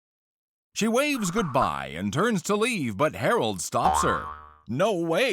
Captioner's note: boing